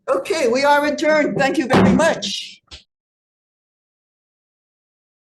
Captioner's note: gavel bangs